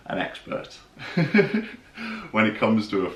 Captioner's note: laughing